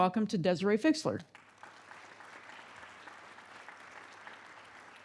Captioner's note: audience clapping